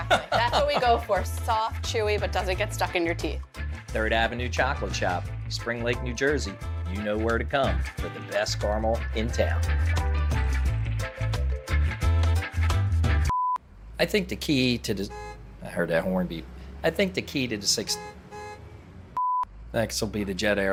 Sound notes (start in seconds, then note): 9.5 upbeat music; 13.3 beeping; 14.6 horn honking; 17.8 beeping